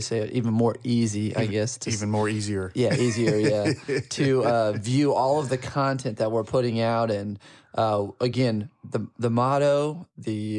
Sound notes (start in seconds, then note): 2.9 laughing